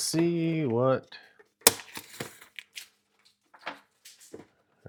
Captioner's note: box thuds